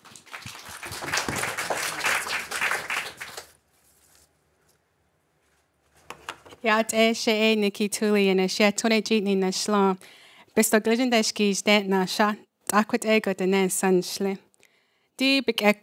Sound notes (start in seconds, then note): 0.0 applause; 7.1 non-english speech